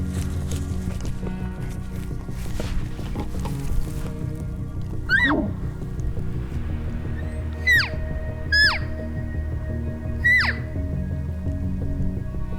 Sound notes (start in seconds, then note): 5.0 caller barks; 7.2 caller cow calling